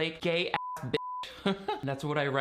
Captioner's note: beeping